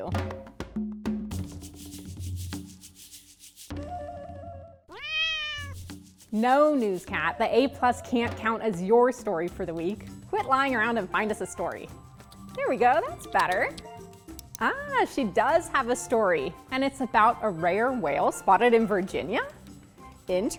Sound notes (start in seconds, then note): 0.0 rhythmic percussion music; 4.9 cat meowing